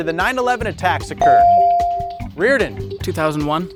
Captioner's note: bell dings